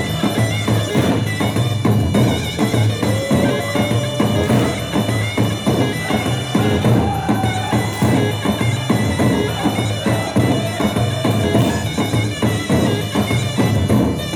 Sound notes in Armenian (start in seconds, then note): 4.7 ծափահարություն